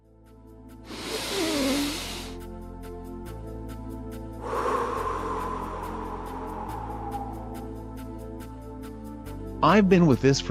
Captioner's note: deep breath